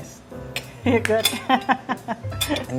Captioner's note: laughs